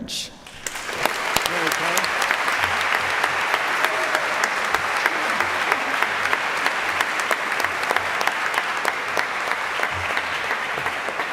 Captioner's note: applause